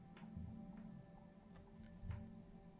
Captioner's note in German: none